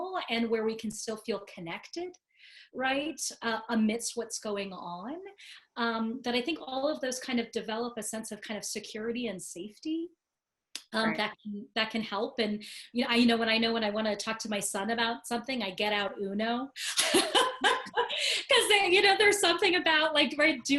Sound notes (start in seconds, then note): 16.8 laughing